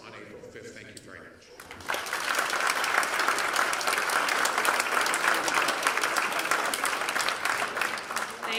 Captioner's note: applause